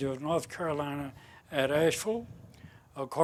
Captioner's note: none